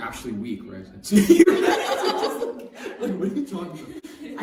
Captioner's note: laughter